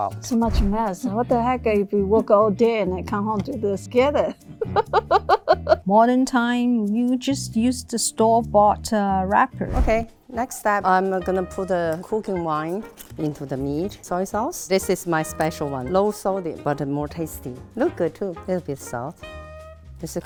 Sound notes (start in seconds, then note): 4.4 laughing